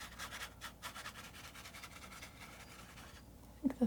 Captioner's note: scratching sounds